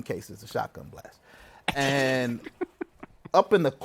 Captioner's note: laughs